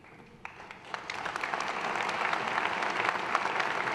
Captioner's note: applause